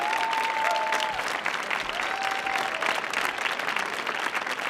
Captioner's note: audience clapping